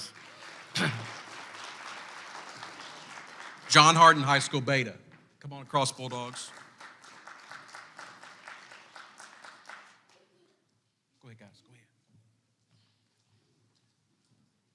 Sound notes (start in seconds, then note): 0.0 clapping